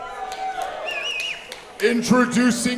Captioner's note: applause